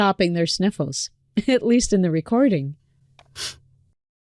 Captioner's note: sniffles